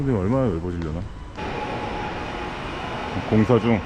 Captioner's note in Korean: 멀리서 들리는 공사소음